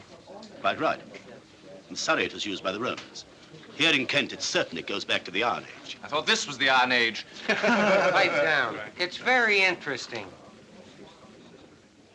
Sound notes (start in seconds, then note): 7.3 men Laughing